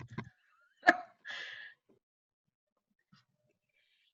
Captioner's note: laughs